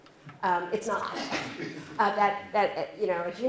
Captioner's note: laughter